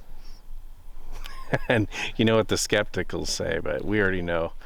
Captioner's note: laughing